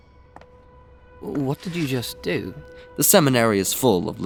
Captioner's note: sound of compartment opening